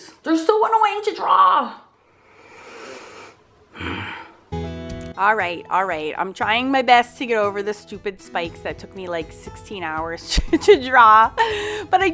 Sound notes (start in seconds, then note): 3.9 growls